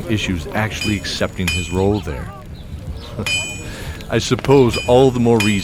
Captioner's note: chuckle